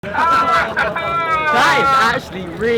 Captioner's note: someone laughing on a megaphone